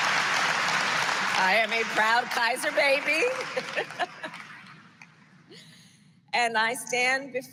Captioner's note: applause; laughs